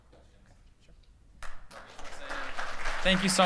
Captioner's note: applause